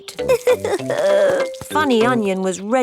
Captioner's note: crying